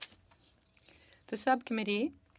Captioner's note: speaking French